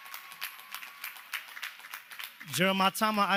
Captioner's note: cheers and applause